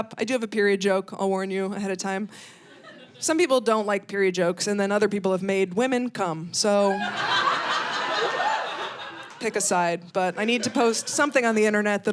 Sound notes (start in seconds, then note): 6.9 audience laughing